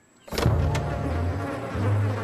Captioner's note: flies buzzing